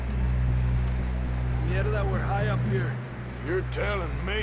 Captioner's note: in Spanish